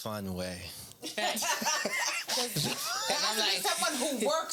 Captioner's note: laughing